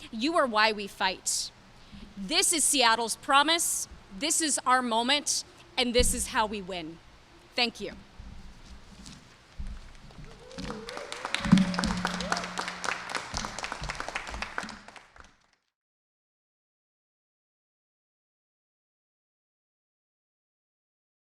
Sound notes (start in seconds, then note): 10.2 cheers and applause